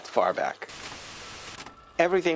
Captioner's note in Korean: 지직 소리